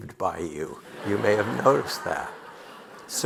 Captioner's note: audience laughing